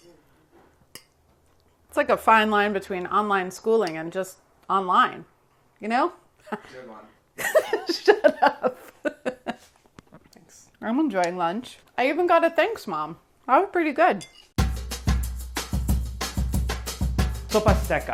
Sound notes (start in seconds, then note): 7.4 laughs; 14.6 lively music